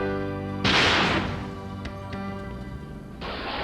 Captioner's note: gun shot